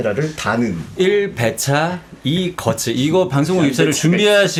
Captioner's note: hold back laughter